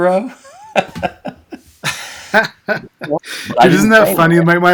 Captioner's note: both laughing